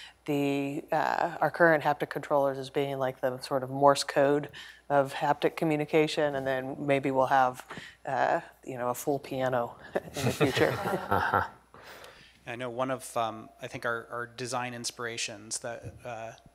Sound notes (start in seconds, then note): 11.9 laughter